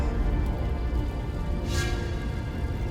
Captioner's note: fire crackling